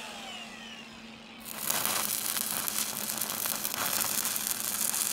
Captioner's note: welder sputtering